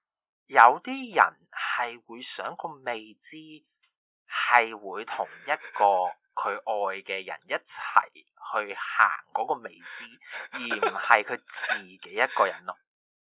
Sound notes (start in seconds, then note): 9.8 chortles; 12.7 giggles